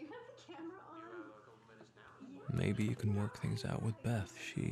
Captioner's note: narrating